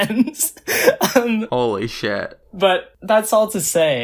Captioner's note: laughs